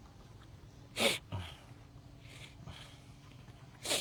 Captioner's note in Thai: เสียงสูดหายใจ